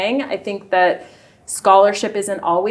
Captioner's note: none